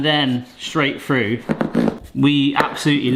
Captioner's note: knife slicing